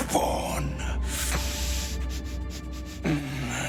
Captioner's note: sniffs